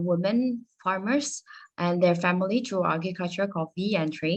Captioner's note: speaking Spanish